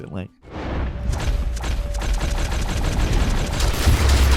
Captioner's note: gunfire banging